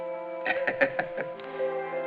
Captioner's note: laughs